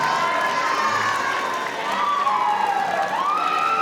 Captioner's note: crowd cheering; audience cheering